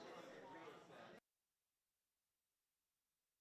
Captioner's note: audio turns off